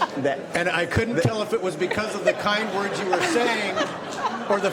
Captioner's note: laughing